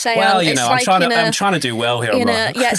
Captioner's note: chuckles